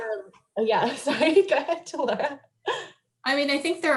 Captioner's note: laughs